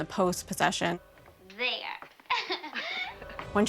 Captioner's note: laughs